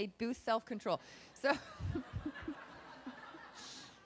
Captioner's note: laughing